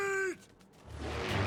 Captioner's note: engines buzzing; thud!